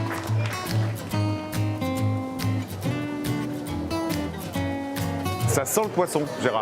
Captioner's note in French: applaudissements